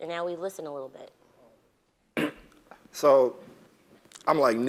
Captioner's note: cough